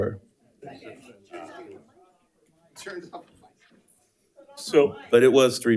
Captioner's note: attendees chattering faintly